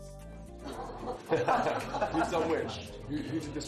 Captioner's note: people laughing